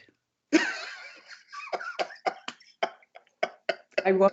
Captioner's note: laughs